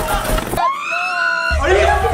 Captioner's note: glass crunching; group laughing; girl shrieking